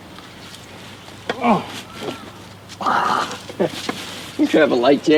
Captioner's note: Jake grunts